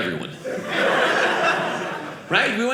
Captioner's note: audience laughing